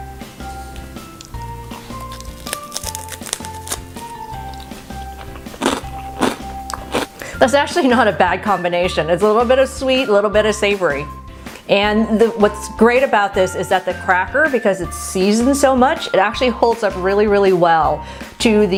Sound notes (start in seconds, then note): 1.0 crunching